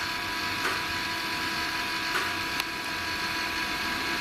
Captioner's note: clicking